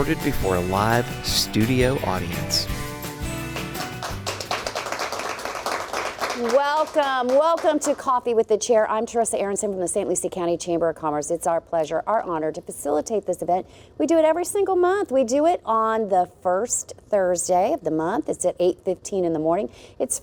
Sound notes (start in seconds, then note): 3.4 applause